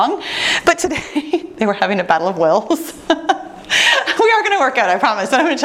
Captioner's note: laughing